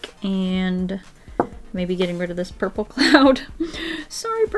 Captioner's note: laughs